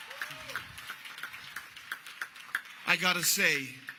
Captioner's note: applause